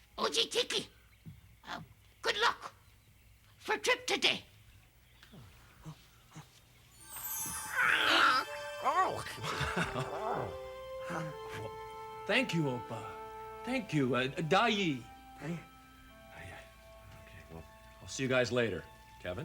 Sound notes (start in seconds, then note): 6.9 mystical chimes; 7.6 Tasha babbles excitedly